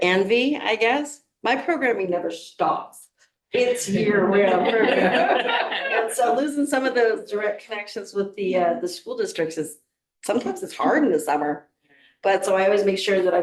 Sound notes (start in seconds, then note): 3.5 board members laughing